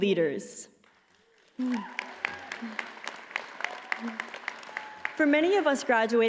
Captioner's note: audience applauds